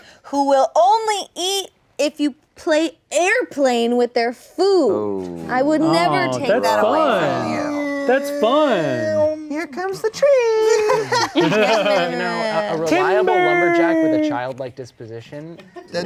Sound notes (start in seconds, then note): 10.7 laughing